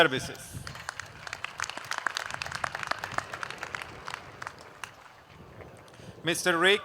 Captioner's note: applause